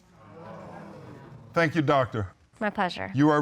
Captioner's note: audience exclaiming